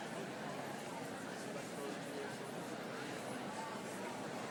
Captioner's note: crowd chattering